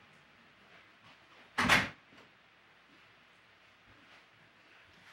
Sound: door slams shut

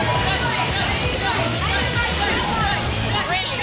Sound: crowd yelling

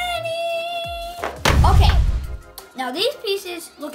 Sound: boom

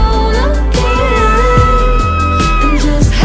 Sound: person screaming

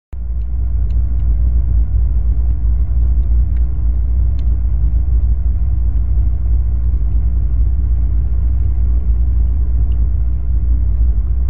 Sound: spaceship hum

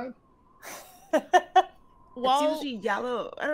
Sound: game Master laughs

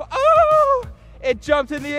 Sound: yelling

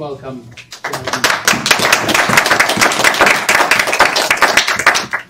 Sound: attendees applauding

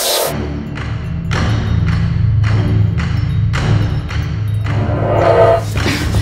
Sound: dramatic tense music; soft tinkling

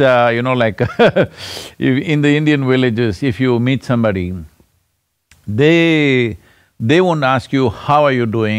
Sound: laughs

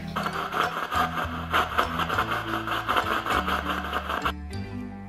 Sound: machine beeping; machine whirring

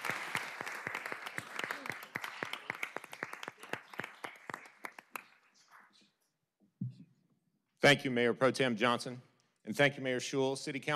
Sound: applause

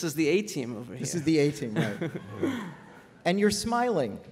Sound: laughter

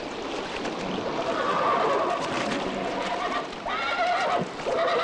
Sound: horse whinnies

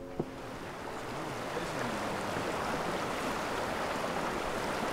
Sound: water babbling

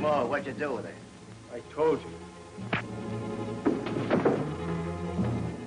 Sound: punch lands

